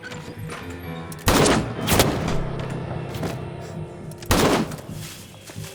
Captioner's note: guns booming; pistol booming